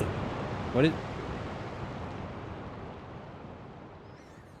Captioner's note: mysterious roaring wind